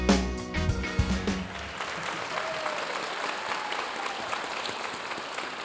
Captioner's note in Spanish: aplausos de la audiencia